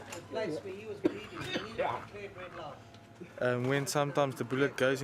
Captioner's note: chuckles; hunters chattering